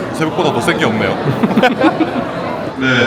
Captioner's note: chuckles